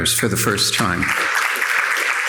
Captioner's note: audience applauding